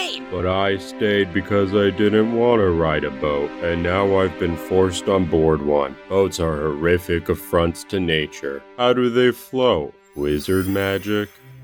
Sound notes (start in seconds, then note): none